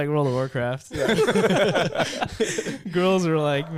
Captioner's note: laughing